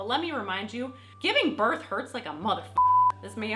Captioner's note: beep